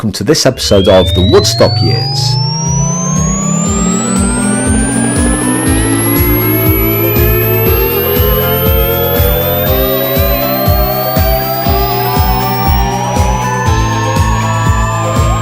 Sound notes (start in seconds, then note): 3.5 rocket engine revving; 6.7 upbeat music